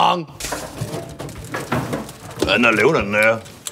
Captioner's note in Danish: klingklang!